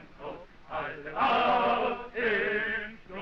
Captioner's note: none